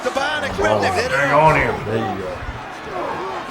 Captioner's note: overlapping chatter